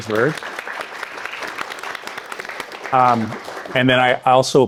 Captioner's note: participants clapping